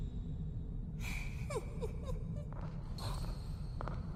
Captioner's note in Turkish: kıkırtı